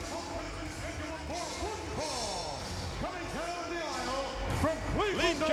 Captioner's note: presenter speaking faintly off mic